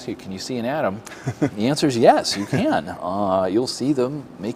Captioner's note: laugh